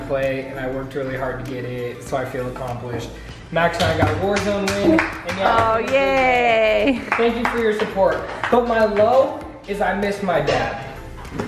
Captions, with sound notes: and I worked really hard to get it. So I feel accomplished Max I got war zone. (claps) (cheers) - Oh, yay. - Thank you for your support. But my low is I miss my dad.